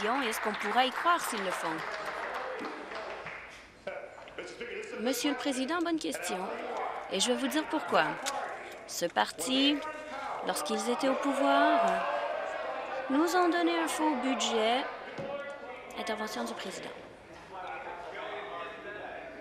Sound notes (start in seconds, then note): 4.5 applause